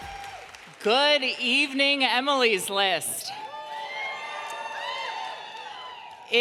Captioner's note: crowd cheering